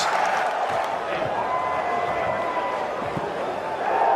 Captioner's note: crowd cheering